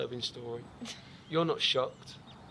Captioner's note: laughs